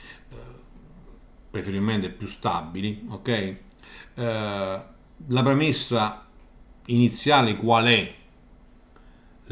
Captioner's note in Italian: schiarire la voce